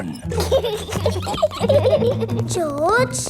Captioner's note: both giggling